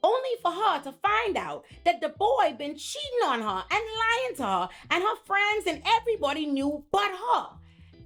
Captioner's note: none